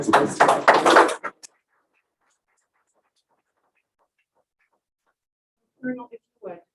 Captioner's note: applause